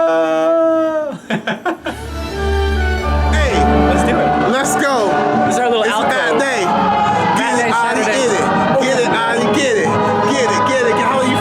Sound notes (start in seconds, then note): 0.9 laughing; 2.3 orchestra music